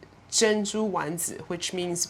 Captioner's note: speaking foreign language